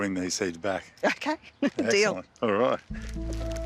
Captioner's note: chuckles